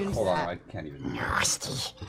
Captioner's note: Gollum voice